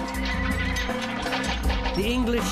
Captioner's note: horses neighing